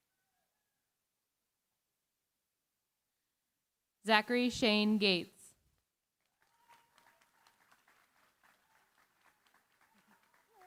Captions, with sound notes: Zachary Shane Gates. [APPLAUSE]